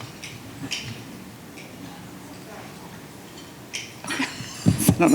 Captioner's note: plastic clicking